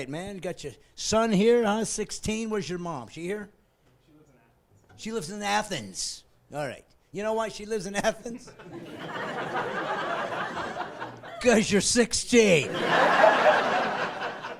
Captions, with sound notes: Are your parents with ya? - [Voiceover] My dad. - That's your dad, all right, man. You got your son here, 16, where's your mom? She here? - [Voiceover] She lives in Athens. - She lives in Athens, all right. You know why she lives in Athens? (laughing)